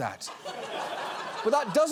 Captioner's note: studio audience laughing